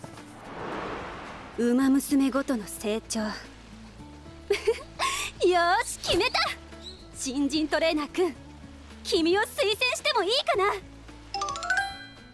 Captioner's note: laughs